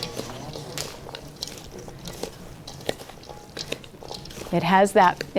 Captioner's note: sounds of the salad being tossed